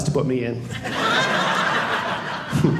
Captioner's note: audience laughing